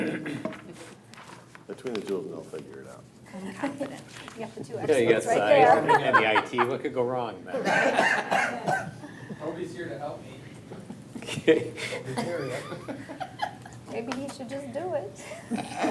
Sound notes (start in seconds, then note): 7.5 all laughing; 11.2 laughing